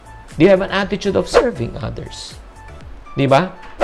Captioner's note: swoosh